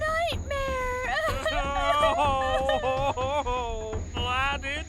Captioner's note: Ivory and Howler sobs